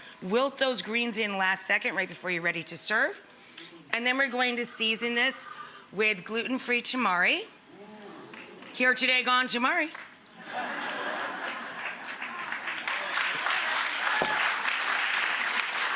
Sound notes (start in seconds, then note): 10.4 audience laughs; 12.9 audience applauds